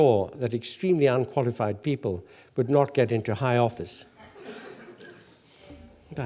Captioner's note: laugh